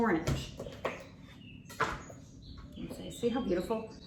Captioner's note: knife knocks on the worktop